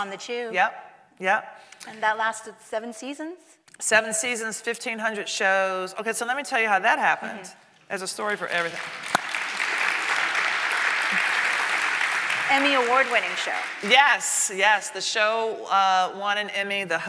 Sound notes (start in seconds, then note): 8.2 audience clapping